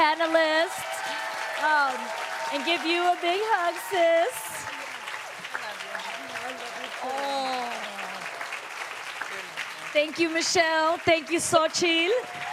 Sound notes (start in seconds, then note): 5.8 cheers & applause